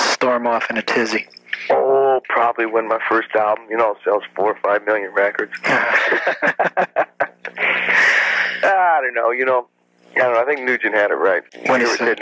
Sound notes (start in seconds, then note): 5.5 both laugh